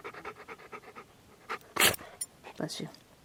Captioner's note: dog sneezing